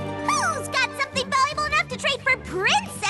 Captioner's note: none